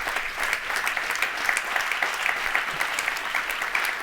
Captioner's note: audience applauds